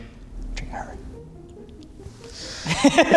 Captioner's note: whispering; laughs